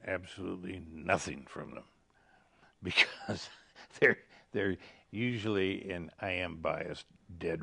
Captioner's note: laughing